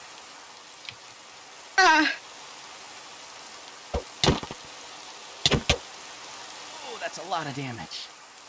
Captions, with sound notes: *minecraft combat noise* Ooh that's a lotta damage.